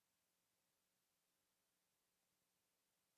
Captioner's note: none